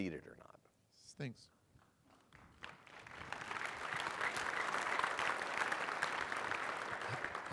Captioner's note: applause